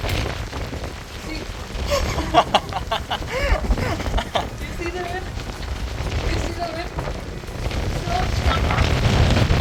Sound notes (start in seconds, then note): 1.8 laughing coz it was funny tbh ngl